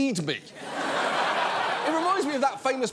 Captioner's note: laughter